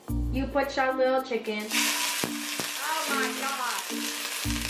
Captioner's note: violent sizzle